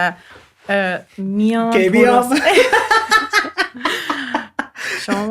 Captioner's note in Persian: خنده